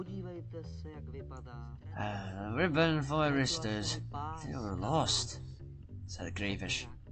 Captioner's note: sighs